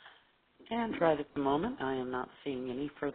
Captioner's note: voiceover